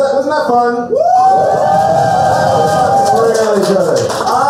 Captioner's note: cheers and applause